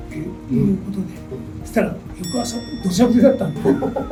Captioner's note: laughs